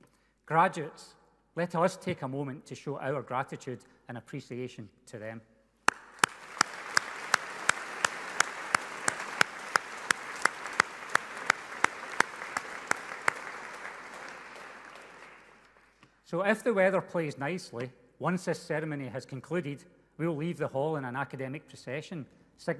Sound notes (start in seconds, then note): 5.8 people applauding loudly